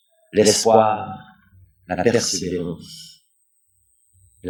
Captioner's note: french